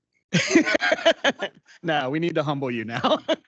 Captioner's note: laughing